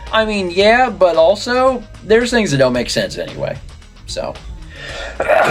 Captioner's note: sneezes